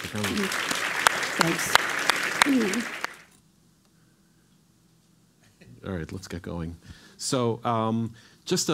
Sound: applause

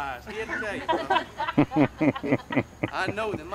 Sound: laughter

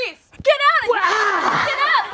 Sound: Brad screams

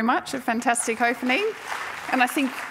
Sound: applause

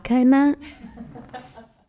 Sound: crew laughing

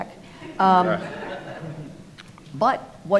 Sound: audience laughs

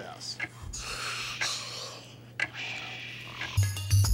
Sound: yawns

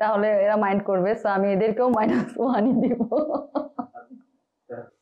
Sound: laughter

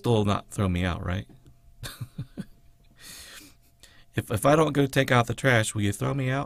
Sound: laughter

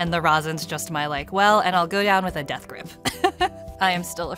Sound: laughs

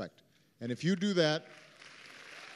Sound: applause

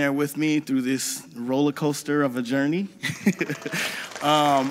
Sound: laughs

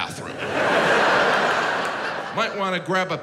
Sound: audience laughs

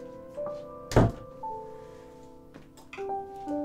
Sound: door closes

